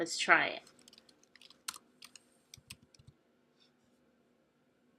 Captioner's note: long pause